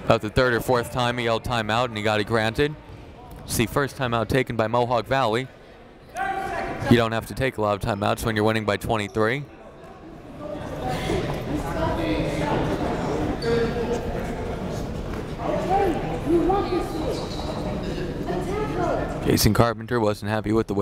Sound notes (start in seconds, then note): 11.3 chattering faintly